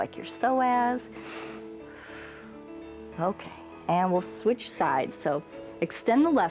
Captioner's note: inhales and exhales